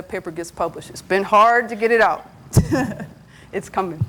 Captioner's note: laughs